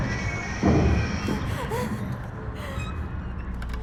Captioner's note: Mattie whimpering